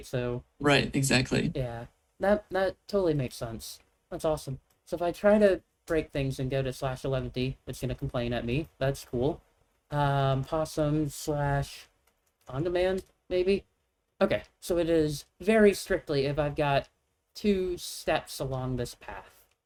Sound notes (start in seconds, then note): none